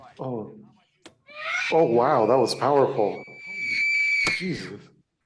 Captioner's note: screaming